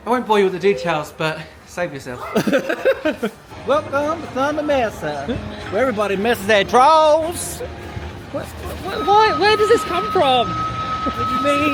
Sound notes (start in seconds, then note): 2.2 laughing; 3.8 mimics cowboy drawl